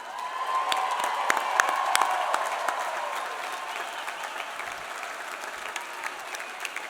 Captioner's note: audience applauding; audience cheering